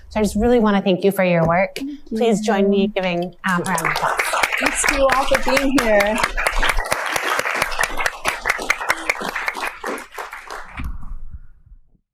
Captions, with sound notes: So I just really want to thank you for your work. Please join me in giving a round of applause. [APPLAUSE] Thanks to you all for being here.